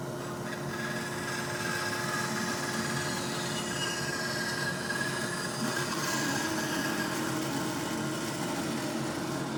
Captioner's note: sawing